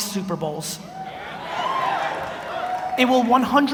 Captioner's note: audience cheers